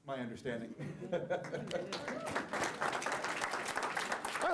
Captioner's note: applause